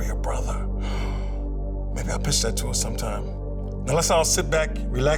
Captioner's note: gasps